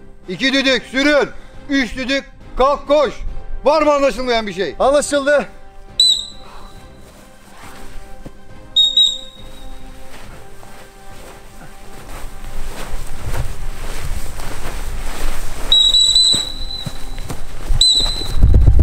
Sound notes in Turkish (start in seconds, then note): 15.7 düt,düt,düt